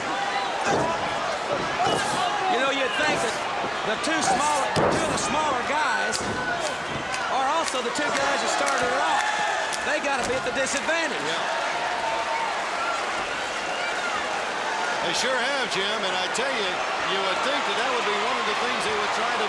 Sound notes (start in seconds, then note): 12.2 applause